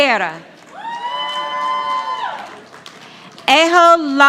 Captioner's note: audience applauding